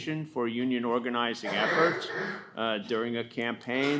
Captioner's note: attendee coughing